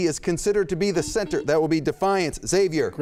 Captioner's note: beep